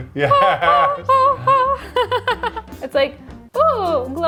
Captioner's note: laughs